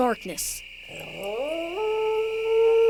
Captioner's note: jackal howls